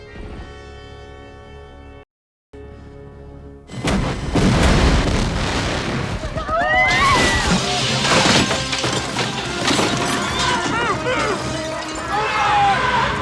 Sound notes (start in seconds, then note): 6.2 yelling